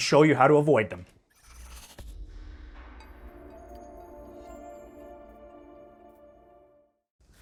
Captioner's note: air whooshing; bells chiming